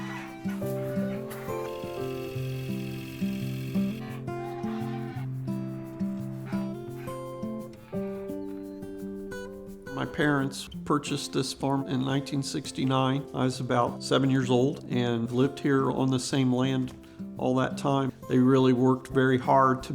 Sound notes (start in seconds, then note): 0.0 chickens clucking; 0.0 melodic music continues; 2.7 tractor humming; 3.5 geese honking; 4.2 melodic music continues